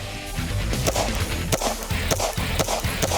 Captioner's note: gun fires